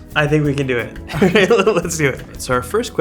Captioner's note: laughs